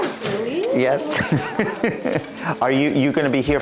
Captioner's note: laughs